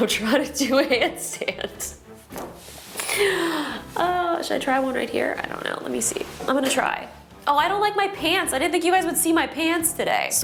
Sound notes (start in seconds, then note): 1.8 chuckling; 3.0 sighing